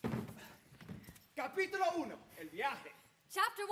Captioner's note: speaks in Spanish